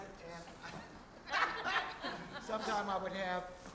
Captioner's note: audience laughing